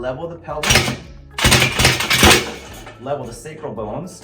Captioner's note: table thuds and clanks